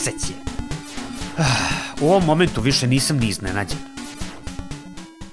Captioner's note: sigh